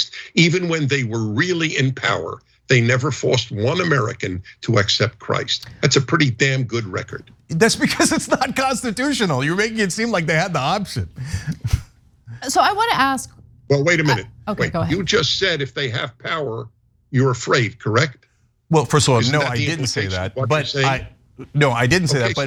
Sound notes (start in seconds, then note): 7.6 laugh